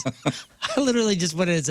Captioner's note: laughing